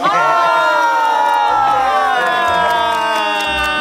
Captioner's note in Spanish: campistas animando